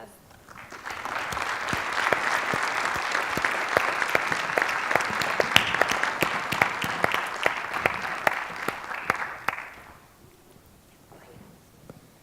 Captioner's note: applause